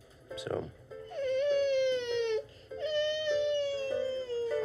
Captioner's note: cries